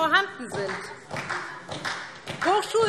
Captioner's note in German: Beifall SPD